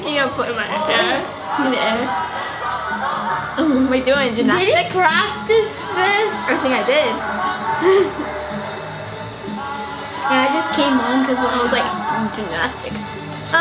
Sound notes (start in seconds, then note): 7.8 laughing